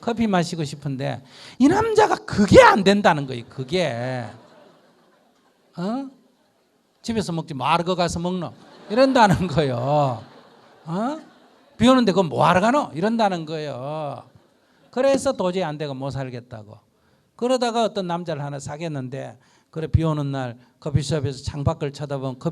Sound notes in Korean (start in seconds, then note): 14.2 청중 웃음